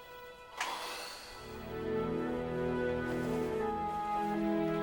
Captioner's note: Bill sighs